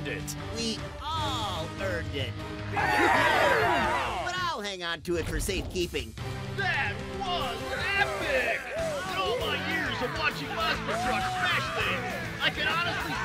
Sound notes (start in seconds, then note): 2.7 cheering